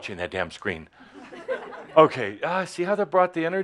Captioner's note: more chuckles